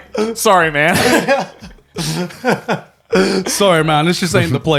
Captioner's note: laughing